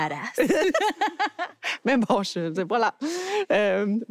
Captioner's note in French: rires